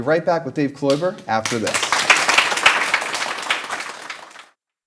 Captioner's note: applause